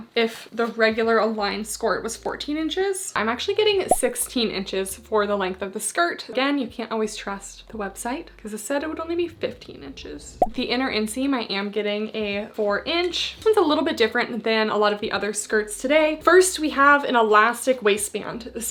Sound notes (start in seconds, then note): 3.9 graphics beeping